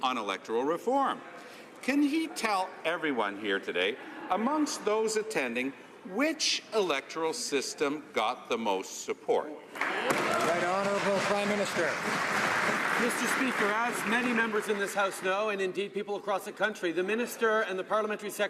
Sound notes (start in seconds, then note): 12.9 some Applause